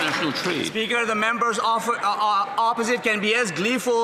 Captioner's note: some Applause